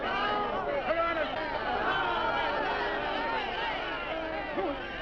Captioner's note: crowd shouting